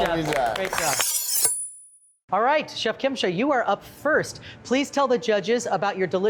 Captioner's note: knife slicing